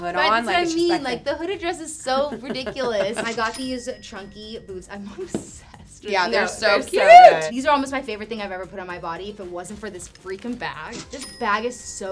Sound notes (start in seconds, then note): 2.1 laughs; 4.4 cash register ringing; 11.0 cash register ringing